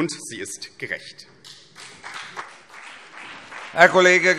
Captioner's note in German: Beifall BÜNDNIS 90/DIE GRÜNEN und vereinzelt CDU